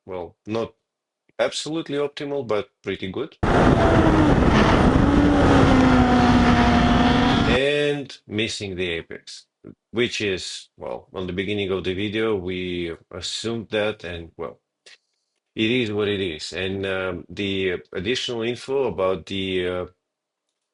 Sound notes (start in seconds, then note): 3.4 tires screeching